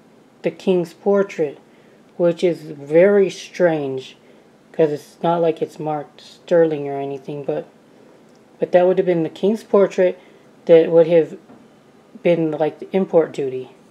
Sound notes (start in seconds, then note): none